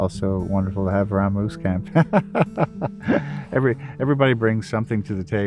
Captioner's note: laughs